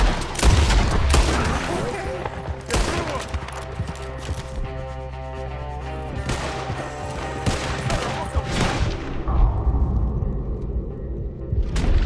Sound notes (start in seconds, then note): none